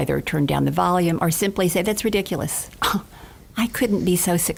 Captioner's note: gasps